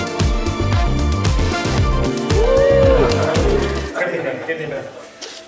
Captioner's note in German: jubeln